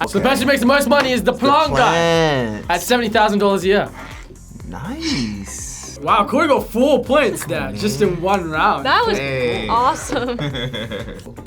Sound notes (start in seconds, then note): 3.8 sighs; 7.0 laughs